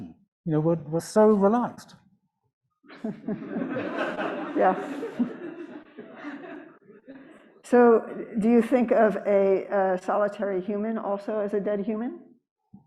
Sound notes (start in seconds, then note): 2.9 audience laughs